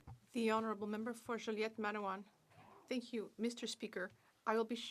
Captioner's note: speaking French